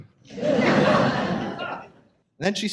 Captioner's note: audience laughs